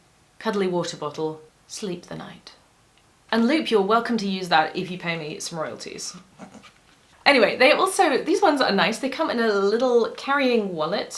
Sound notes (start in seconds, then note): 6.3 snicker